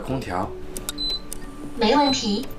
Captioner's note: AC turned on voice